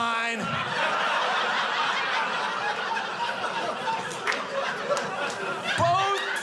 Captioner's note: audience laughing